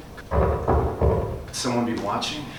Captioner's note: tapping noise